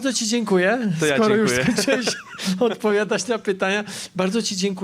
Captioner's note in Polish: śmiech